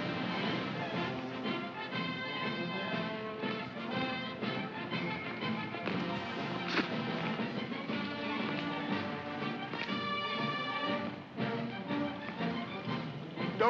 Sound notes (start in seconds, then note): 0.1 parade music; 6.4 spits; 8.1 parade music